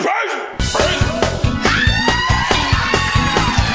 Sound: crowd cheers

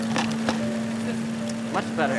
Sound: electrical buzzing

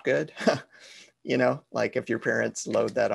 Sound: laugh

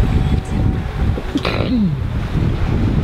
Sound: sneezes

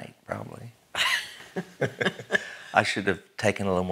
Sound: laughing

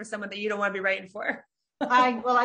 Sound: laughs

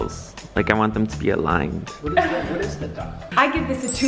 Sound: laughs

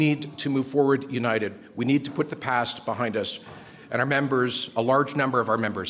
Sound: crowd Noise

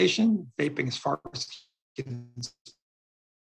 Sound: voice crackles

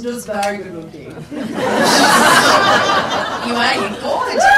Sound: people laugh

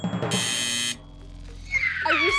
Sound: squealing

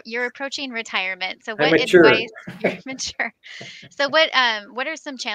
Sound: laugh

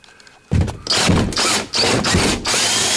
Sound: drill sounds

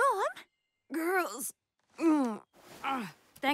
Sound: groaning

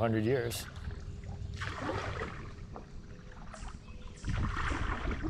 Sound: splashing

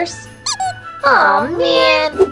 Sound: comical duck squeak

